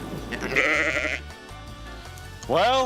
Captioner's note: sheep bleating